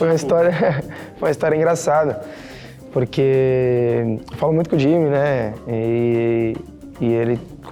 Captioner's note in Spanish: Ríe